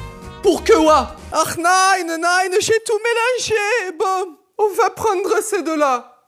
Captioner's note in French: accent allemand